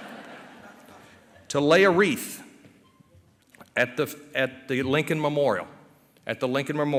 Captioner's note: laughter